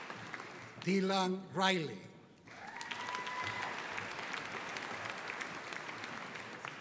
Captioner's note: audience applauding